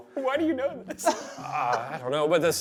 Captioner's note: laughs